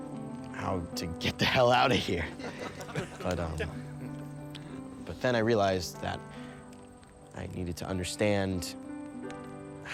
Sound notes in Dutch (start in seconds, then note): 1.9 allemaal lachen